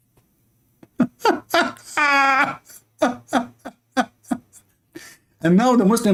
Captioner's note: Ketawa